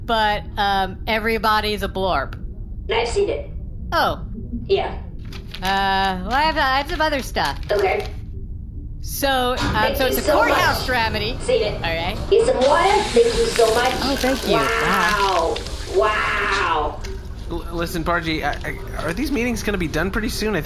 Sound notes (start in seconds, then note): 5.2 flipping through papers; 11.4 hatch opening; 15.3 unenthused